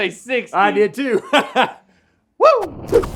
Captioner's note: Rhett laughs